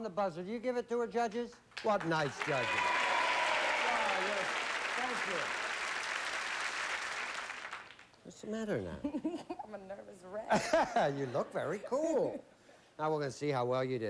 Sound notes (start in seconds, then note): 1.7 applause; 10.4 laughs